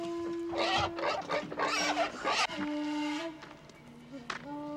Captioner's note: pigs grunting